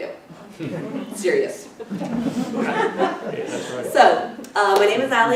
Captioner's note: laughter